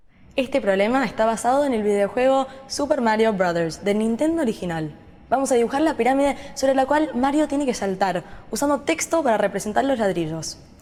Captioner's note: speaking spanish